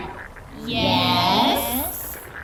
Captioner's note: speaking with all the Gurps’ voices at once